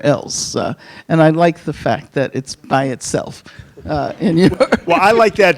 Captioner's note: laughs